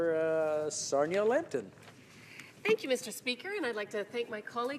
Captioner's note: speaking in french